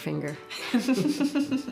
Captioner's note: laughs